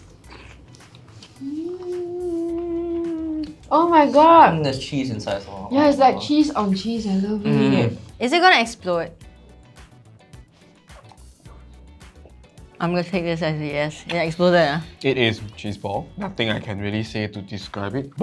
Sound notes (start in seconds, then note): 1.3 happy noises